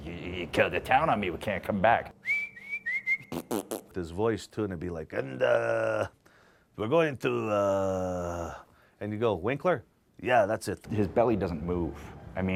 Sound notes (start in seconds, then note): 2.2 referee whistles; 5.3 grunts